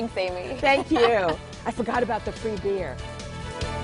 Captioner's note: laughter